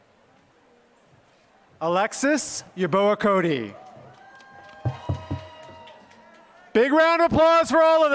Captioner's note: applause